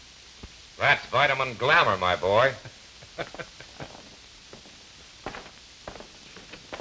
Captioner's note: laughter